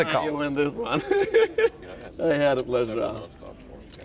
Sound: laughing

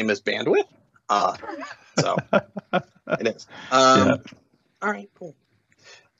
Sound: laughs

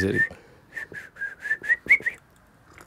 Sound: whistling

